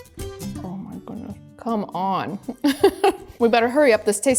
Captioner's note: gentle upbeat music; laughs